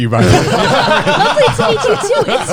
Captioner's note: laughs